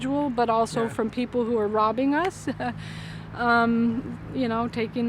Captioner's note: laughing